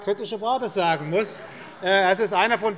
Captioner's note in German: Heiterkeit